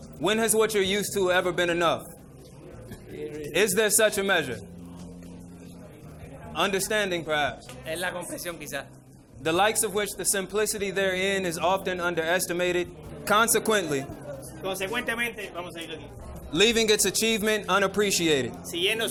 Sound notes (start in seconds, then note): 8.1 interpreter speaking in foreign language; 14.8 speaking in foreign language; 18.8 speaking in foreign language